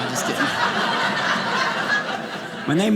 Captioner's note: audience laughing